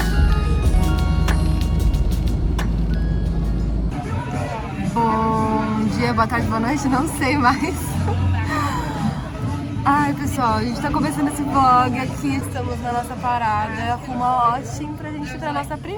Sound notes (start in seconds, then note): 7.2 risadas